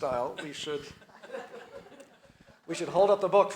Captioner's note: audience laughs